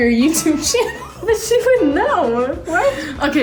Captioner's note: laughing